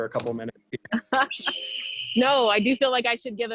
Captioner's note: chuckles